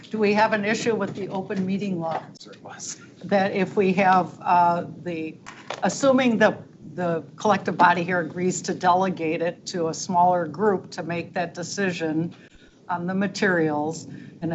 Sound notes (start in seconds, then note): none